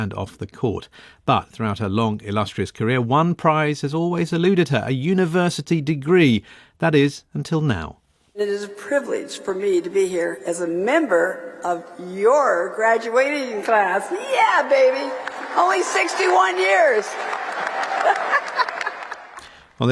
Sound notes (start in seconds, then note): 14.0 audience cheering; 17.6 laughing